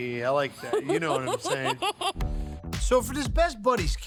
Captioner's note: giggling